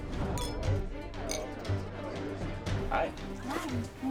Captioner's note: glasses clinking